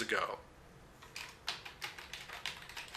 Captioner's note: typing